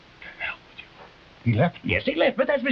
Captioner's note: Chumley whispering